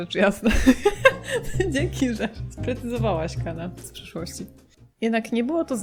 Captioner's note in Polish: śmiech